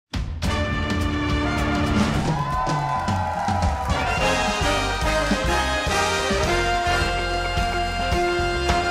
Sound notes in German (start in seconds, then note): 0.4 Spannungsvolle Musik; 2.9 Jubel, Applaus